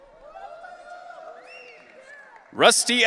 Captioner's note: audience cheering